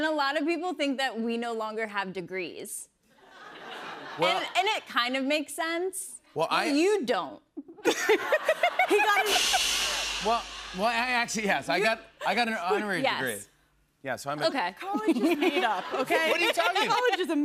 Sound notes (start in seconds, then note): 7.6 laughter; 8.9 cymbals crash